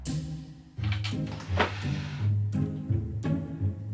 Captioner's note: drawers pulling out